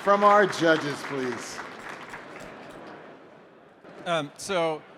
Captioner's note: applause